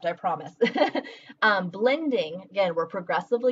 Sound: laughing

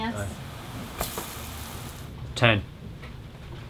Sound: pan frying

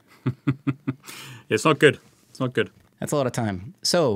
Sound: chuckling

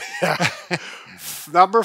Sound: laughs

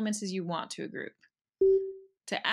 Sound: ping

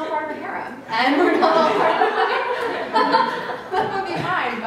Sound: laughter

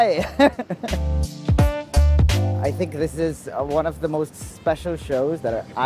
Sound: laughs

